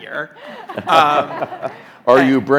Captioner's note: group laughing